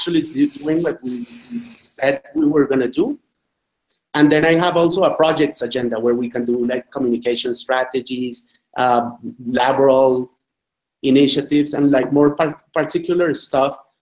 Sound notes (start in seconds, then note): 9.2 spanish Language